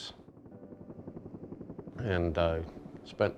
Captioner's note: helicopter blades whir